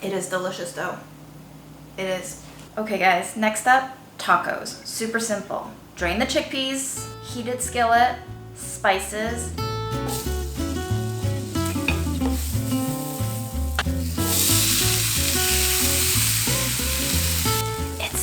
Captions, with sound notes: It is delicious though. It is. Okay guys, next up - tacos. Super simple. Drain the chickpeas. Heated skillet. Spices. (sizzling sound)